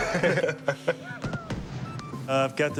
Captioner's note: laughter; gunshots